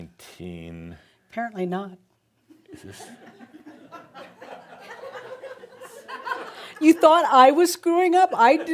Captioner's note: more chuckles as it doesn’t work